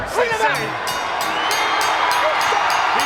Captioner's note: bell dings